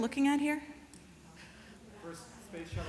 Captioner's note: chatter